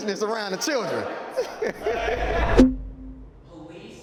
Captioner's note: laughing